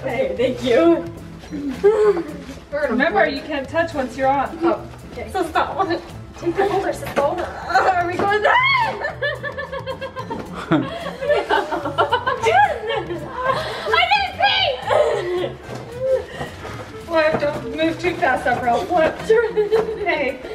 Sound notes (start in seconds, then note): 8.4 screams; 9.1 girls laugh